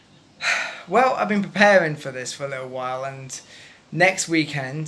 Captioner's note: sigh